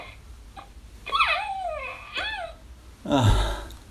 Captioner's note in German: vergnügtes Lachen